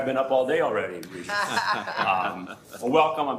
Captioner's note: laughter